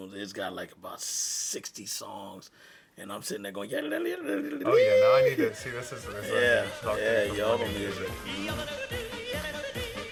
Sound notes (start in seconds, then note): 4.0 imitates yodeling